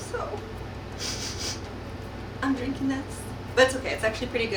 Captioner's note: sniffles